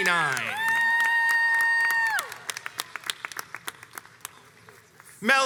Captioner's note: crowds cheers and applauds